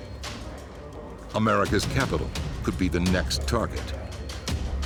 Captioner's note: voiceover